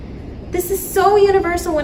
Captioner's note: none